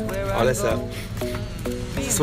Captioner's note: snif snif